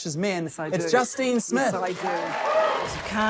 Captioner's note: cheers, applause